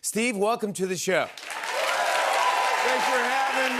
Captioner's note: cheers and applause